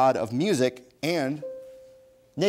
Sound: bell dings

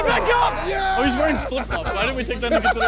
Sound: contestants cheering

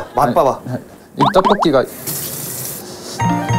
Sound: boiling

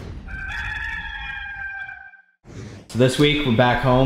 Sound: rooster crowing

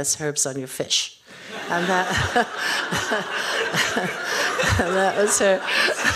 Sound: audience laughing

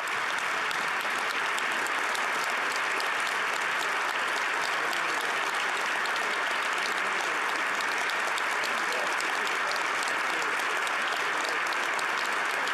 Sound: applause

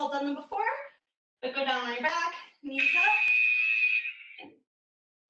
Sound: alarm blares

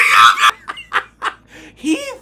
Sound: laughs

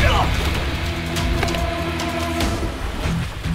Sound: grunting; dramatic music

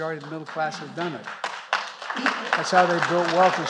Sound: applause

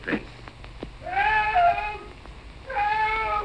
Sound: yelling

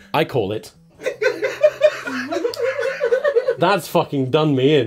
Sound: laughter

